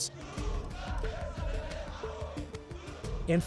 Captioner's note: chanting